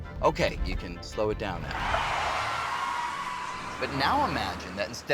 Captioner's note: tires squealing